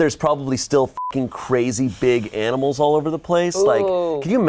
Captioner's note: beep